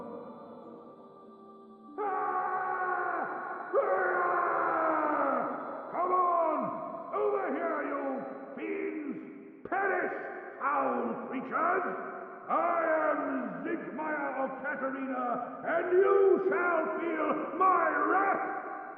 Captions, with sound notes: (yelling) Come on, over here you fiends! Perish, foul creatures! I am Siegmeyer of Catarina and you shall feel my wrath!"